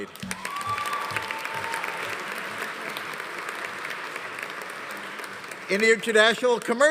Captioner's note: audience applauding; audience cheering